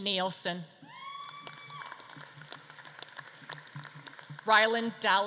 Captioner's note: audience claps and cheers